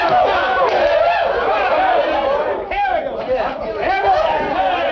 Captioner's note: cheering